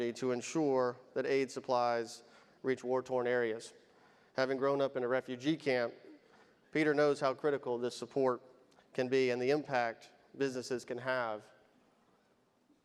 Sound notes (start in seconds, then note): none